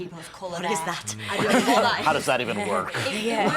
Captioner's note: laughter